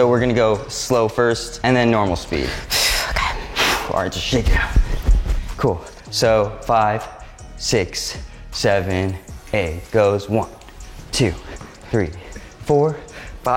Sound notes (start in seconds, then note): 3.4 exhales deeply